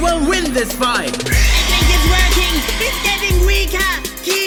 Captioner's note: whisper screams